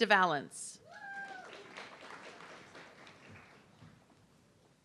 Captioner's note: audience clapping